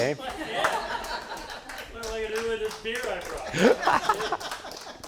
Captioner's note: audience laughs and claps